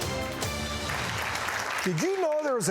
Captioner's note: upbeat music; audience applauding